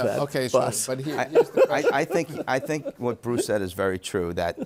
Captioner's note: is laughing